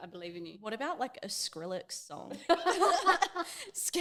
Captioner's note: both laughing